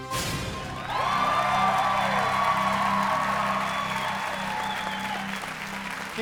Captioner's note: cheers and applause